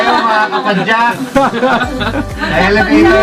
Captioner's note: laughs